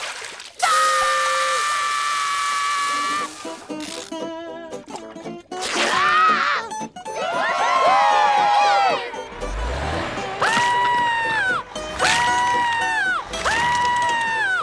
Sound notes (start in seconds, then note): 0.6 screaming; 5.8 screaming; 7.2 cheering; 10.0 screaming